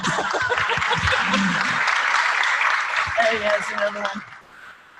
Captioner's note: applause